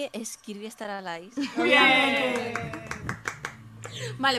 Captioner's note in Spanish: risas